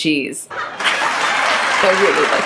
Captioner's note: audience claps and laughs